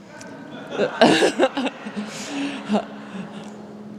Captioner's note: audience laughing